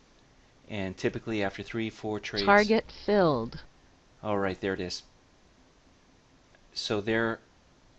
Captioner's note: target filled sound plays